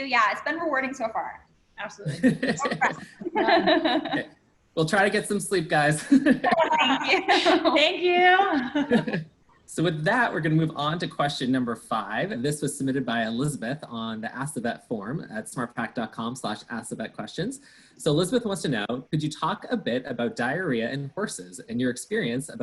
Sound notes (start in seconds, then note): 2.1 laughter; 5.8 laughs; 8.9 laughs